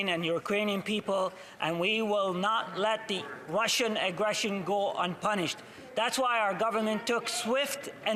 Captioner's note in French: voix de l'interprète